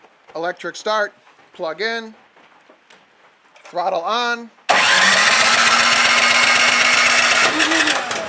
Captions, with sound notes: Electric start, plug in. Throttle on. (engine starting)